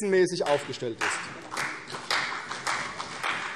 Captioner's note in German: Beifall CDU und BÜNDNIS 90/DIE GRÜNEN